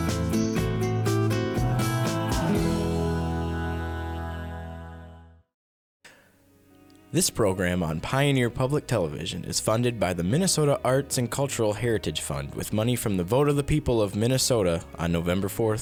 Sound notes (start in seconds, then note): 7.1 voiceover